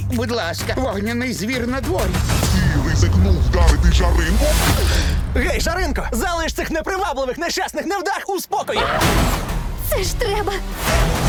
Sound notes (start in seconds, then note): 2.4 gasps; 8.8 screams